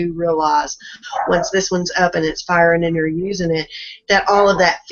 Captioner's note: dogs barking in background